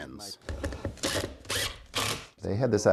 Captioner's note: drill whirring